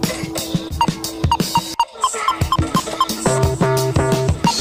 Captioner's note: beeping